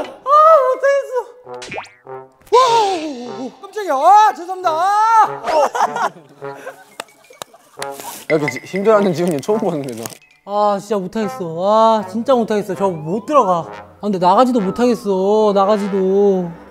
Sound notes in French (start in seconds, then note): 4.0 S'excusant de peur